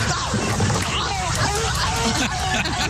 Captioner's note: screaming